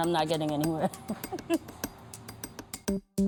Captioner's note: chuckles